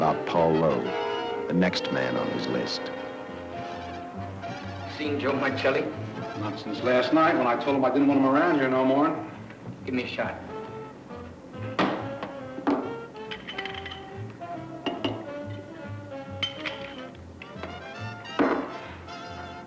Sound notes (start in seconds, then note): 3.2 jazz music; 11.8 glass slams down; 12.9 jazz music; 16.4 bottle cap rattles; 18.3 glass slams down